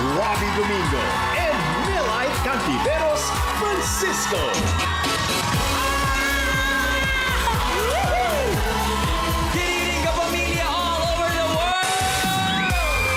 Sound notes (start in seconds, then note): 5.5 audience cheering; 5.7 melai screaming